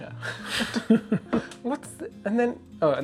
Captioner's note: laughter